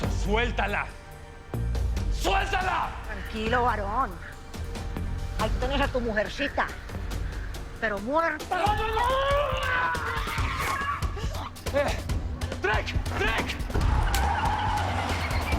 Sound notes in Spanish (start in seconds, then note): 8.6 Gritos; 13.7 Chirrido de llantas